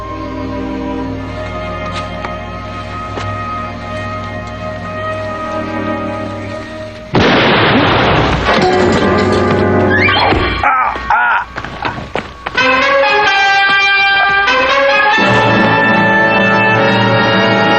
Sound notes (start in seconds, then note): 7.1 gunshot; 7.4 groans; 10.0 groans